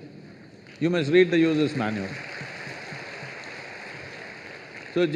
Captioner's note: laughter/Applause